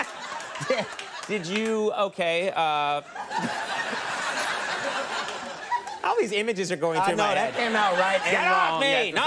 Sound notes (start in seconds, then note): 2.9 all laughing